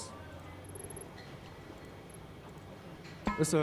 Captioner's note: text beeping